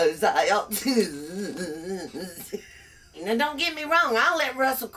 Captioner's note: laughs